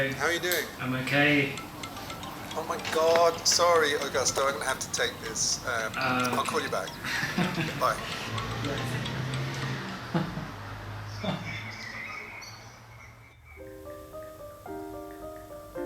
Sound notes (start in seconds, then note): 1.9 phone ringing; 8.5 phone ringing; 11.0 birds singing; 13.5 piano playing in minor key